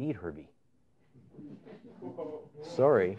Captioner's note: laughter